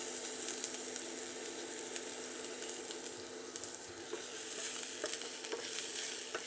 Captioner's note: sizzling